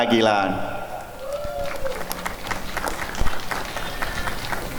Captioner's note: applause and cheering